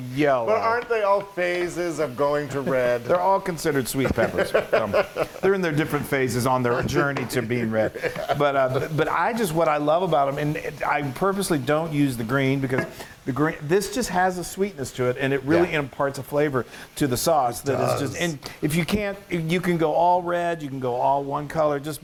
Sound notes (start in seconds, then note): 3.9 laugh